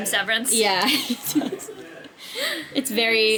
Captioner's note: laughs